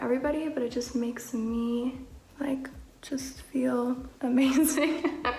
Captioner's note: laughing